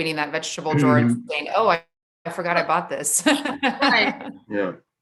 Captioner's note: laughs